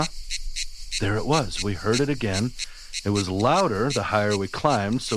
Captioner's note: cue cicada sound